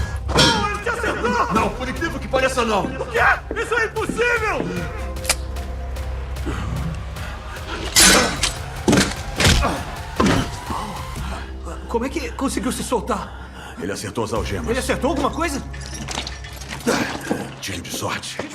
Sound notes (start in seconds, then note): 5.2 gun clicks; 9.2 both grunt; 11.9 sputtering